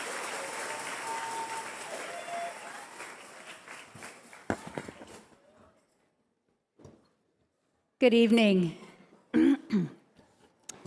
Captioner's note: cheers and applause